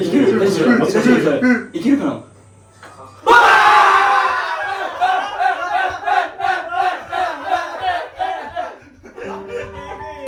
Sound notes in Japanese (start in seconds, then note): 3.2 叫び声; 8.0 笑い